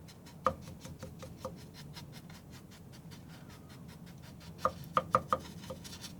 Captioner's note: scratching